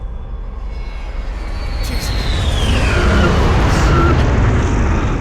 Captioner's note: jet engines roaring